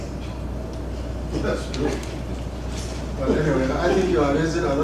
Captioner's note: laugh